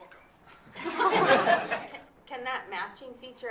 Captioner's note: audience applauding